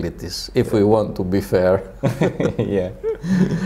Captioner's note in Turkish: Gülüşmeler